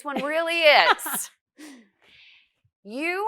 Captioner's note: laughs